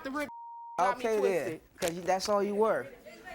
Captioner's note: beep